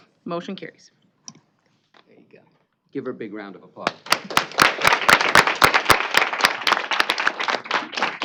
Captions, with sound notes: - Motion carries. - There you go. Give her a big round of applause. [applause]